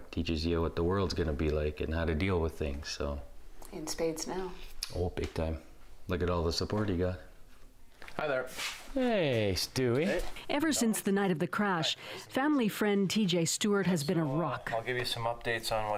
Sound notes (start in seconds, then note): none